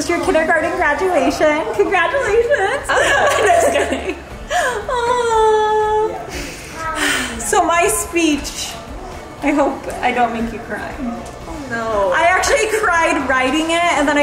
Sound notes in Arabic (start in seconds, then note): 3.0 يضحك كريستال; 6.8 تتنهد كريستال